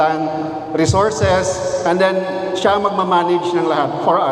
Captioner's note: speaking in foreign language